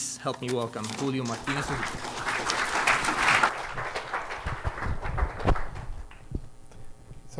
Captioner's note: applause